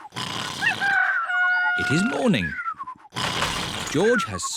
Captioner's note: cockerel crows